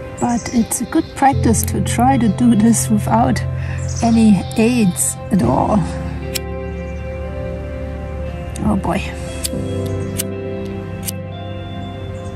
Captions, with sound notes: but it's a good practice to try to do this without any aides at all. [Sound of lighter] Oh boy!